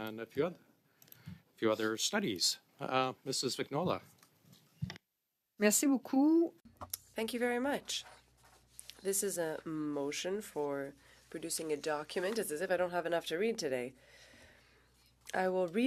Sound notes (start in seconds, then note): 9.0 speaking French